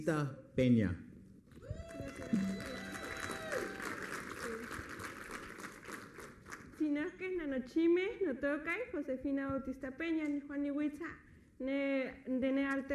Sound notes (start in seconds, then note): 1.6 applause; 5.3 speaking Spanish; 7.4 applause; 9.7 speaking Spanish